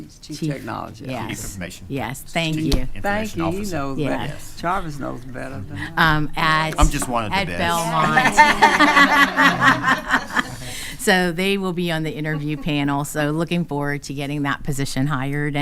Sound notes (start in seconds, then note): 7.6 attendees laughing